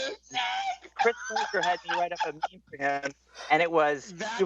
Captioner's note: laughter